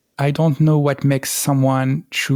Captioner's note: none